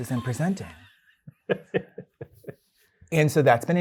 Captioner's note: guy laughing